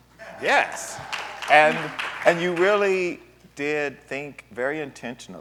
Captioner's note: applause